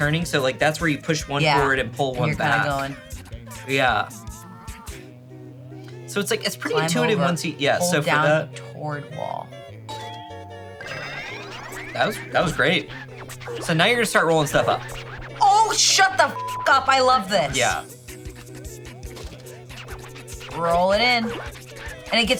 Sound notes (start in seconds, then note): 16.3 beep